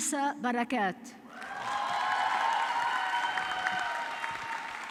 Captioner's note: audience clapping